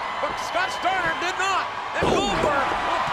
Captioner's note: audience cheers